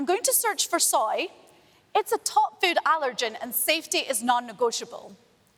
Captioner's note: none